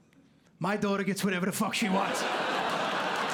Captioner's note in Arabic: لكنة بروكلين; ضحك